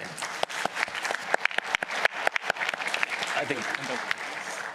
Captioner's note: applause